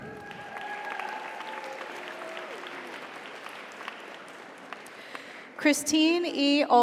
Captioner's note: audience cheers; audience applauds